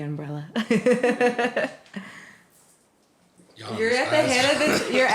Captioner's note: laughter